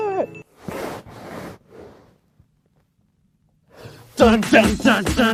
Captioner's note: shuffling from the mic against the wall